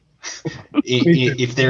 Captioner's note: laughs